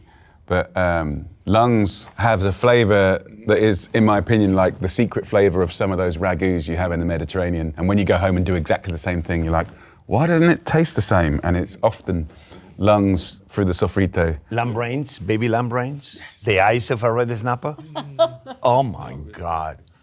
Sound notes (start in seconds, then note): 17.7 chuckling